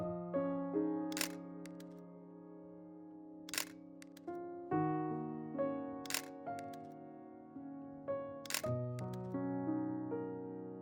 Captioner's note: camera shutters and soft piano music